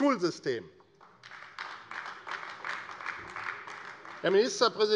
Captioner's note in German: Beifall AfD - Zuruf BÜNDNIS 90/DIE GRÜNEN